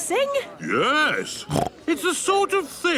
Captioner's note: snorts